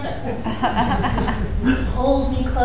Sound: audience laughing

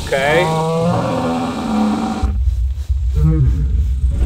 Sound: dinosaur sound

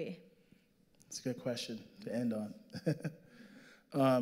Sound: chuckles

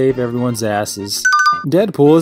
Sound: "Correct!" sound effect

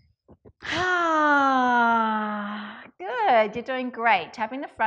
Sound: sighs

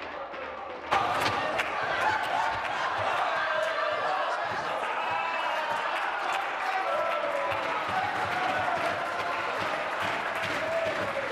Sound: tapping of desks

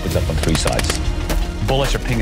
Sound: gunfire

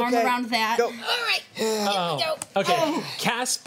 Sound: straining sounds

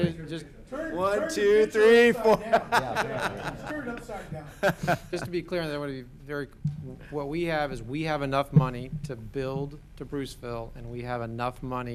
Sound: laughter

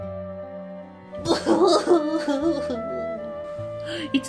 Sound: crying

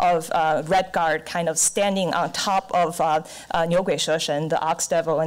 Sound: foreign language

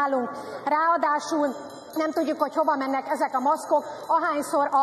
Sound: bell ringing

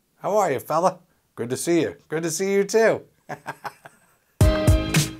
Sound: laughs; credits music

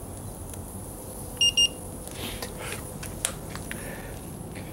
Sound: thermometer beeps

